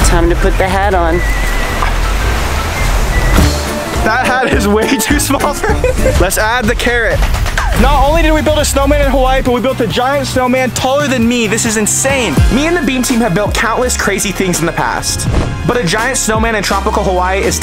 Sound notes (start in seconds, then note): 1.2 cheerful music; 3.9 laughs